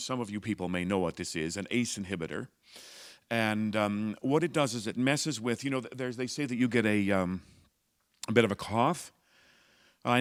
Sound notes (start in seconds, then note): none